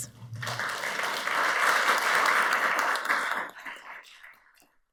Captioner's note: audience applauds